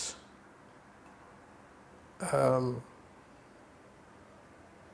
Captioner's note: pauses 6 seconds